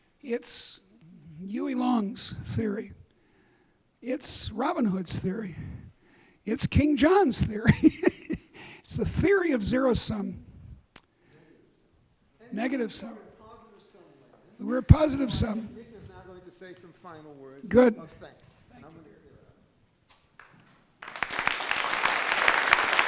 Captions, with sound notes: It's Huey Long's theory. It's Robin Hood's theory. It's King John's theory. (laughing) It's the theory of zero sum. Negative sum. (man shouting in background) Or positive sum. - Nick is now gonna say some final words of thanks. - Good. (audience clapping)